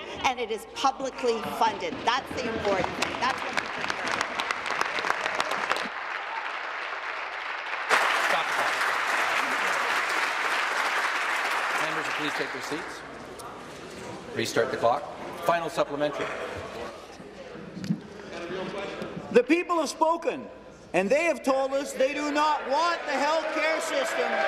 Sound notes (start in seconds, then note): 7.5 applause